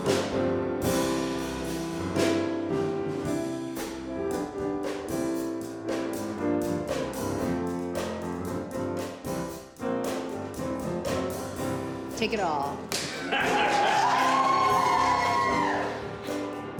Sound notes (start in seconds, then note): 1.4 upbeat music continues; 12.9 clapboard clapping; 13.0 audience member laughs; 13.0 audience cheering